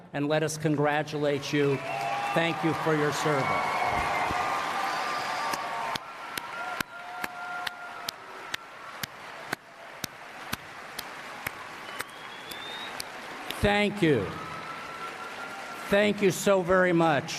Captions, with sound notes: and let us congratulate you thank you for your service. [ Applause ] Thank you, thank you so very much.